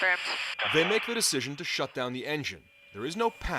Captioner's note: voice-over